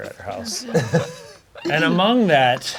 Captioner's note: crowd laughing